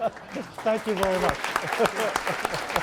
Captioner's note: laughter